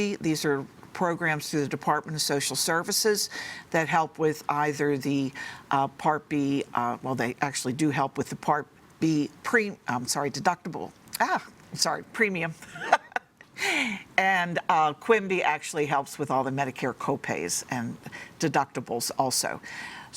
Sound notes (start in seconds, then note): 12.8 laughs